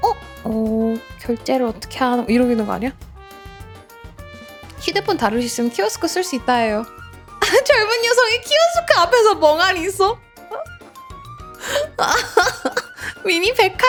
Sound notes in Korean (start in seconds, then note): 11.9 웃음